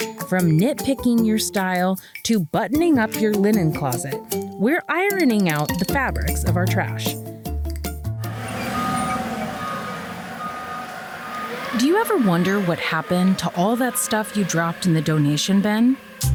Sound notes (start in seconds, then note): 8.2 forklift beeping